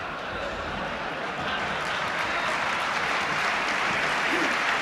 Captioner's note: applause